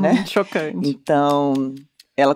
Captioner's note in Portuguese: risos